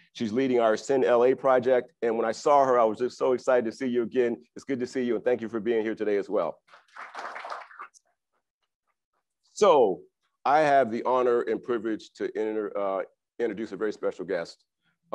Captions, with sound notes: She's leading ASCEND LA project and when I saw her, I was just so excited to see you again. It's good to see you and thank you for being here today as well. (crowd applauds) - So I have the honor and privilege to introduce a very special guest